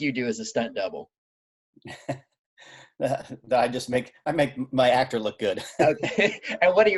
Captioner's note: chuckling